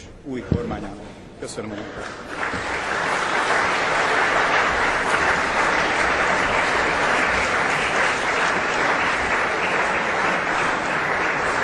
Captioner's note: Applause in the ranks of the MSZP